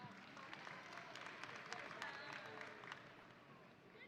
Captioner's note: audience applauding